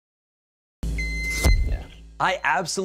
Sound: wand beeping

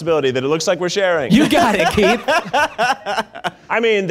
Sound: laughing

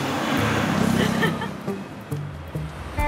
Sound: both giggling

